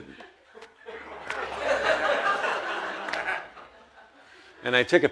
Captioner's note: audience laughs